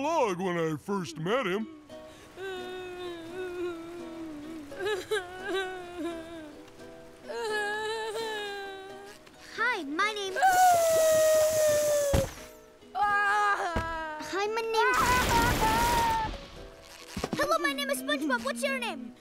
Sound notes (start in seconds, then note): 2.4 crying; 10.4 wailing